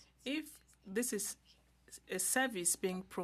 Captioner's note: speaking French